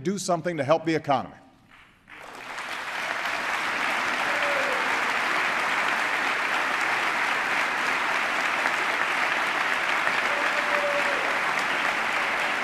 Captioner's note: applause